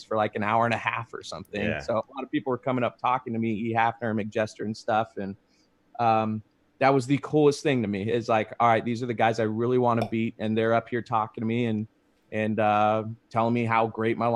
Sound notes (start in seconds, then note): 10.0 logo popping